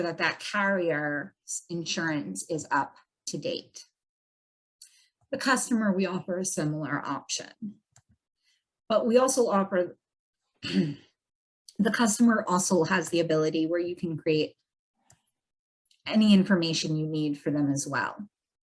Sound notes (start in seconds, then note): 9.8 coughs